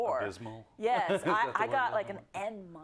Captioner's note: laugh